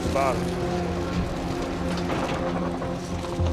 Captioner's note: scraping